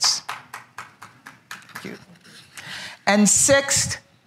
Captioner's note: applause